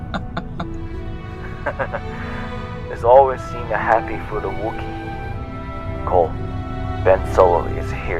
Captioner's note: chuckle